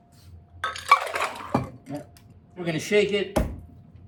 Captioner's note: liquid sloshing